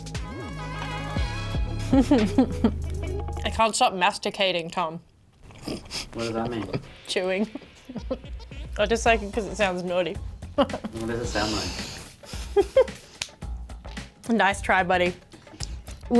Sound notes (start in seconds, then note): 0.0 upbeat music; 1.8 laughing; 7.9 laughing; 12.1 laughing